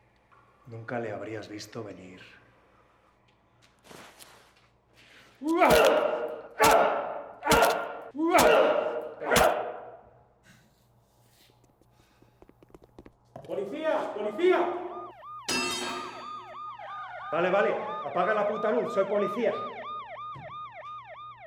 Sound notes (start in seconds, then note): 5.6 grunting, smacking